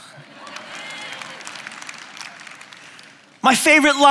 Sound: applause

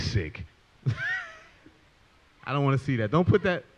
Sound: laughs

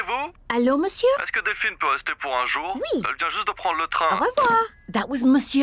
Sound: speaks french

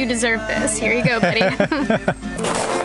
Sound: laughter

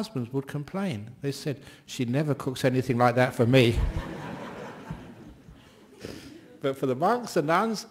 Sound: laughter

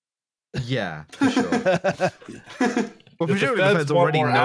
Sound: laughter

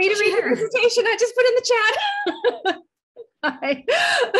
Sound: laughs

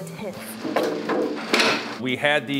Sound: door closing; wood clanging

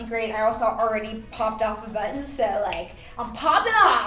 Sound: snapping

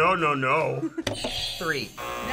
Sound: buzzer rings; buzzer

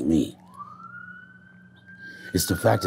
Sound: siren wailing

